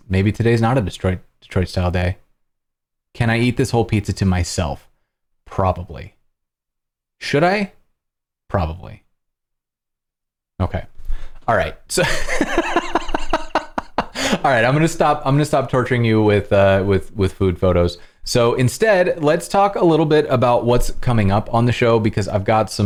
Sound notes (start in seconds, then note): 12.0 laughter